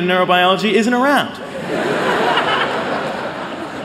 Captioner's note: laughter